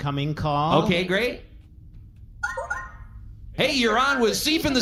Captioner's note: communicator beeps